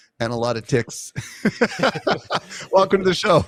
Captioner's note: laughs